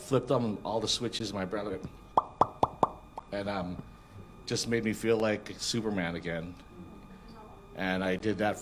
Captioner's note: pop noises